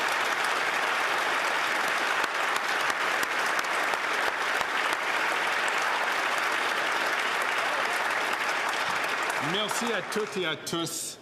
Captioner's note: cheers & Applause